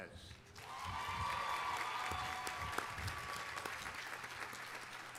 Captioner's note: audience applauding